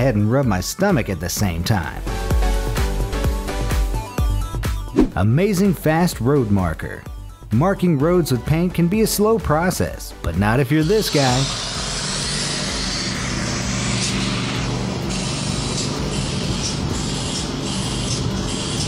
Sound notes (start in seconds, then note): 12.0 engine roars; 15.1 paint sprays